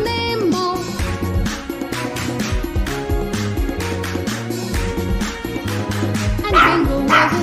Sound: clap – Clap – Clap – Clap – Clap

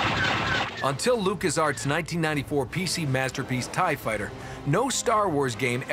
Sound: lasers blast

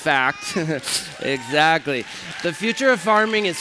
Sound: cheers

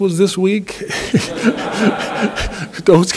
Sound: laughter

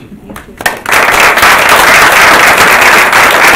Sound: applauding

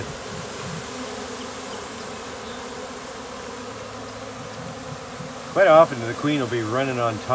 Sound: bees buzzing

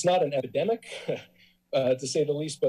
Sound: chuckles

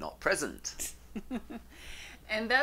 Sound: laughs loudly

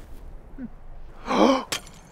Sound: gasp

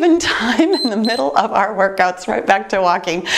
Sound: timer beeps

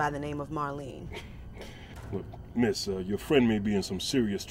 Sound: laughs

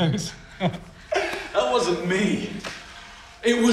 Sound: chuckles

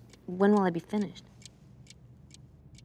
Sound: loud ticking

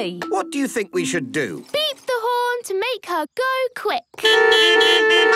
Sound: beeping

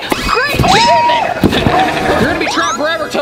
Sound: ominous sound plays

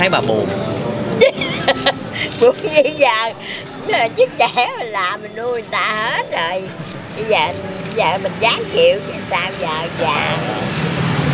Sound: laughing

